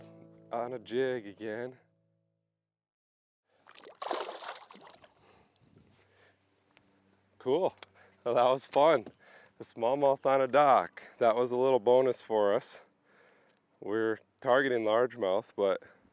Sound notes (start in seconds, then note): 3.6 water splashes